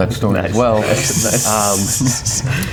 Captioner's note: laughs